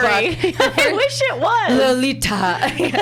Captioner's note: laughs